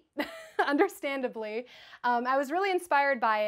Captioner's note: laughs